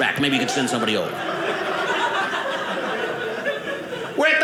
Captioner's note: audience laughing